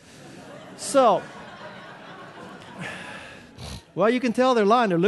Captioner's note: audience laughing